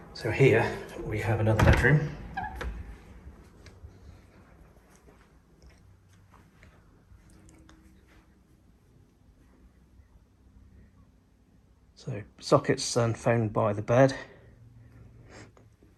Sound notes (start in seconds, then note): 1.5 door squeaks